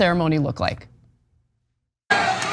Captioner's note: applause